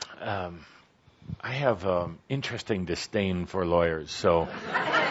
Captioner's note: laughter